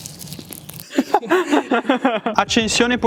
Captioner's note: laughter